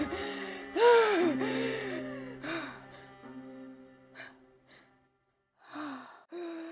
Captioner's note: Ainsley breaths heavily, Music fades